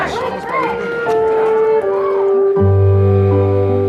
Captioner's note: crowd; sentimental music